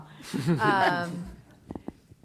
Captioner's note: chuckle